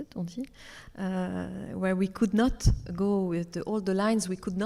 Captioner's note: speaks French